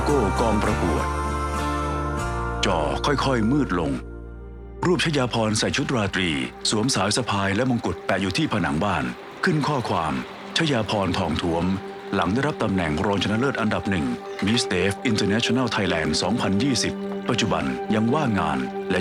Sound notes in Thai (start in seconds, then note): 5.7 เสียงน้ำไหล